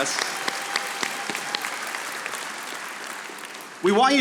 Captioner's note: audience applauding